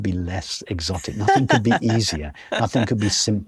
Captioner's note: laughs